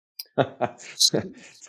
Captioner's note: laughs